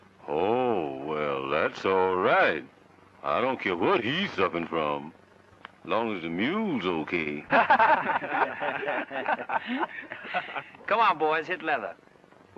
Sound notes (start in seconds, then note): 7.4 men laughing